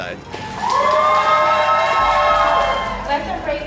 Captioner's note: celebrating Crowd